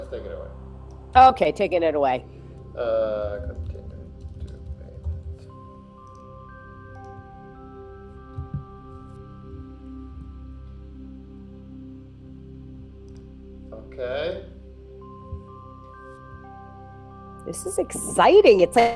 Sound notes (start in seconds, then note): 6.4 mouse clicking; 14.8 gentle music